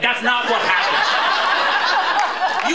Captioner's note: laughter